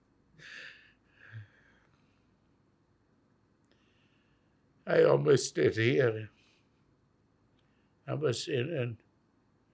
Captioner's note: crying